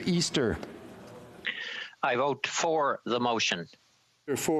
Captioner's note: speaking FRENCH